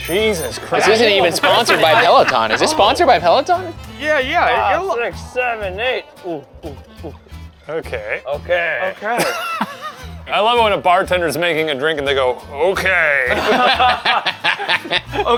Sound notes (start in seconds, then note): 6.3 groaning; 13.3 laughing